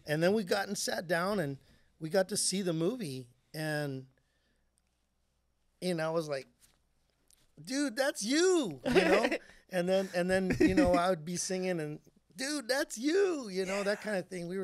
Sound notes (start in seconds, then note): 9.9 laughing